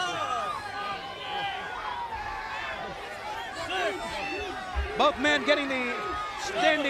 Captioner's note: crowd chatter